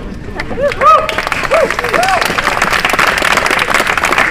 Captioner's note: applause